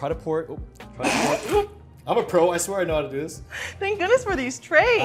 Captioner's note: laughing